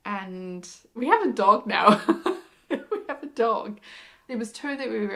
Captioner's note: laughs